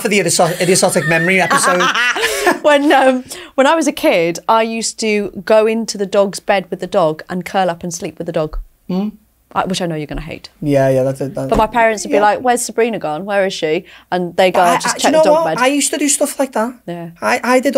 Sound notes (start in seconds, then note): 0.4 laughs